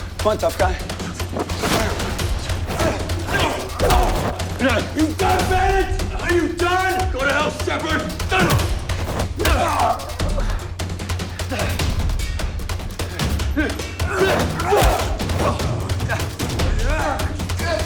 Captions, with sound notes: Come on, tough guy. (dramatic music) You done, Bennett? Are you done? - Go to hell, Shepherd! (head thuds) (Shepherd grunts) (dramatic music) (both grunting)